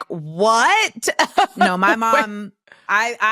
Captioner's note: laughs